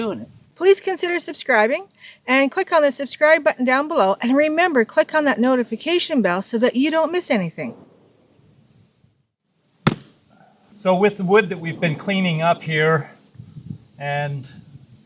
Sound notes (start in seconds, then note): 9.8 chop